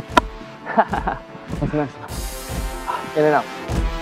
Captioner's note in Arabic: يضحك